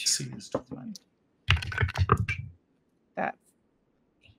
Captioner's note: dice clank